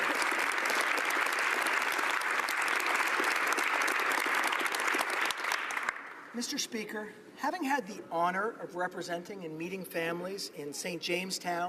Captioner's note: applause